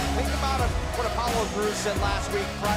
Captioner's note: crowd cheering